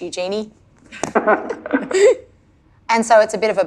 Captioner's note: laughing